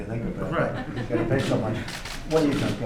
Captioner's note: laughter